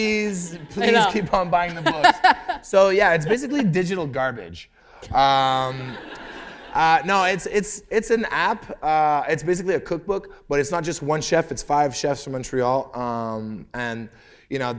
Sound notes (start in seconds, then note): 1.6 laughter; 5.6 laughter